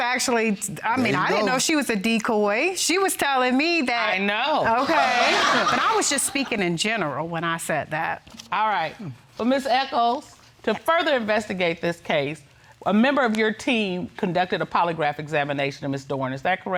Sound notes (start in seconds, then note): 4.7 audience laughing